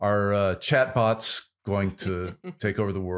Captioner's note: laughs